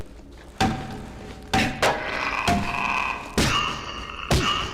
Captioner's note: hollow thudding; meaty thudding